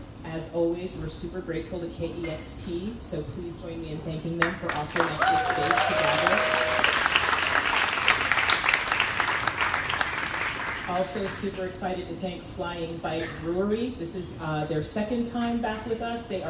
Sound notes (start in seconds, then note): 6.2 crowd applauding drowns out speaker